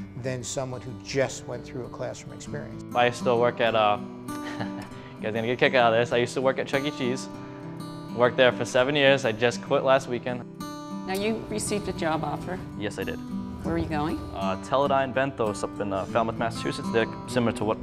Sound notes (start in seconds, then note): 4.4 chuckles